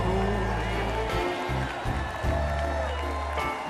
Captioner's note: cheers and applause